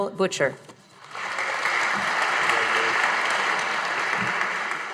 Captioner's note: audience applauding